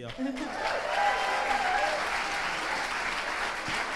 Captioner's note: crowd applauds